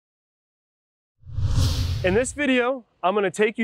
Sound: whooshing

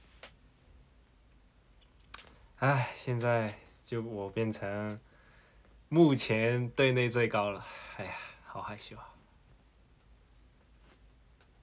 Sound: sigh

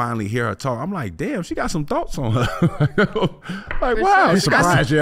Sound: laughing

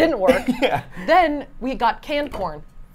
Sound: laughs

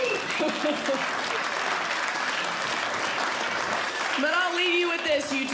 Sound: audience Laughing; audience Clapping

